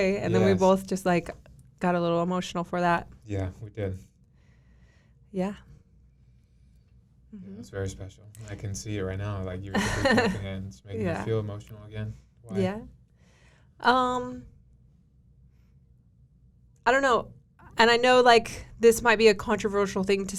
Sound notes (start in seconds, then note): 9.7 laughing